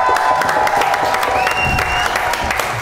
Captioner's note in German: Jubel